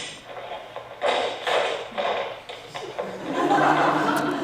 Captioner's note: sound of clattering items; audience laughs